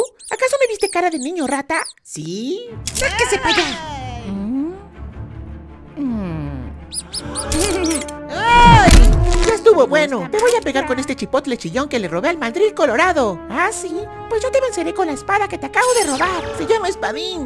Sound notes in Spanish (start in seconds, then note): 6.8 sonido rata/voces sorprendidas; 8.3 Robin grita